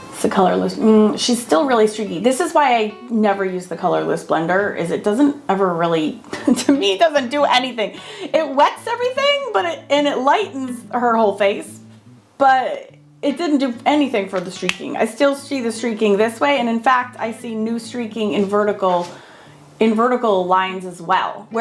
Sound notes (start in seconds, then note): 6.3 laughing